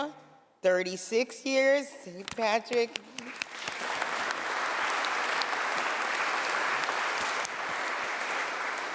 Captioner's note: applause